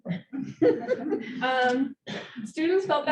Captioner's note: audience laughing